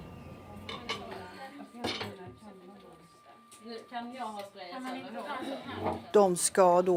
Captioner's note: lively chattering